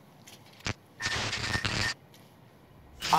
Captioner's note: digital noise